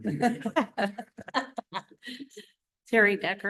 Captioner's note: laughter